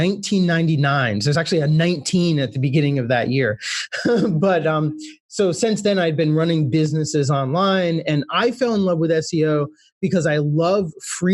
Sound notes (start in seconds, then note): 3.5 laughs